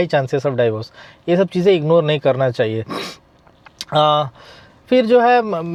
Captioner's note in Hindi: नाक से की जाने वाली आवाज़